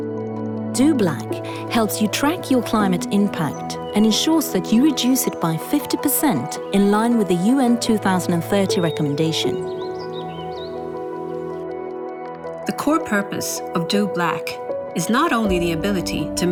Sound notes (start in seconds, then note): 9.9 birds chirping; 9.9 chill music